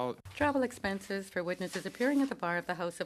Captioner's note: speaking in French